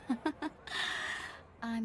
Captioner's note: laughs